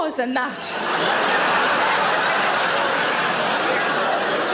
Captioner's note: audience laughing